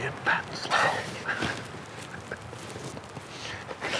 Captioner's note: laughing